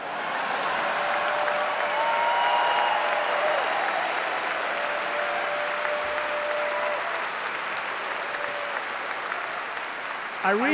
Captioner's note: applause